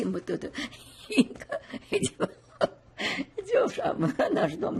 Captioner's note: laughing